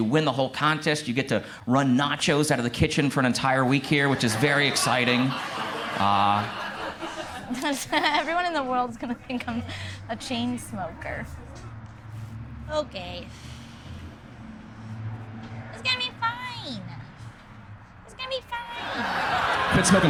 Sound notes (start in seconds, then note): 5.4 crowd laughs; 7.9 laughs